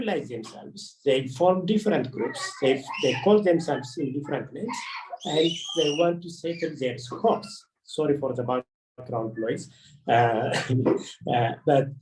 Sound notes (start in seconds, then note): 4.6 children playing; 10.2 chuckles